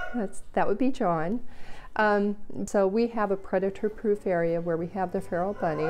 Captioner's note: rooster crow